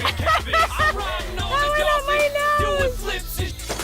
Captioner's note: chuckling